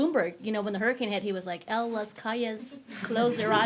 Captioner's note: speaks in foreign language